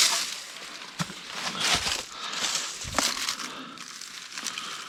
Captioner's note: leaves crunching